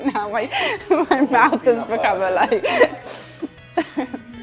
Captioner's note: laughing